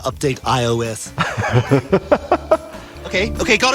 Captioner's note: laughing